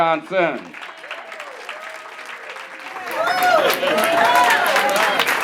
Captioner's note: audience applauding and cheering